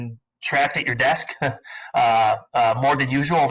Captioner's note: chuckling